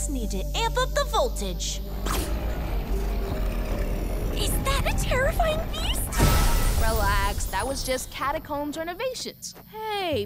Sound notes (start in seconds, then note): 1.8 deep growling